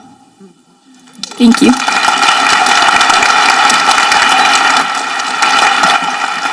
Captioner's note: audience applauding